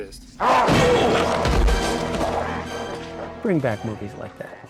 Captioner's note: rodent growling